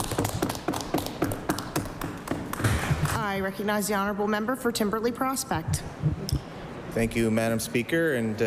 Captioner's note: applause